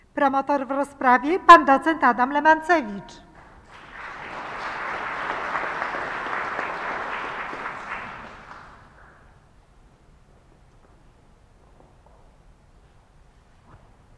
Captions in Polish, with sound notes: Promotor w rozprawie Pan docent Adam Lemancewicz. [oklaski]